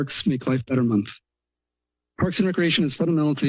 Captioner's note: pause